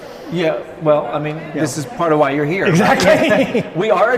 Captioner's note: laughing